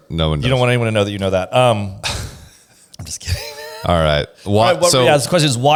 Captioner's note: laughs